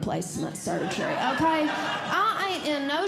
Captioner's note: audience Laughing